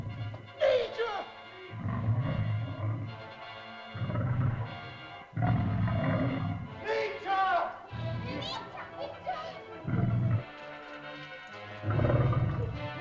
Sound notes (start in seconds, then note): 0.0 man speaks in caveman language; 0.6 man cries out; 1.6 dinosaur growls; 3.2 suspenseful music; 6.8 man cries out; 7.9 children's frightened chatter; 9.6 dinosaur growls; 9.7 suspenseful music